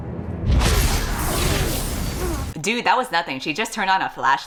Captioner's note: none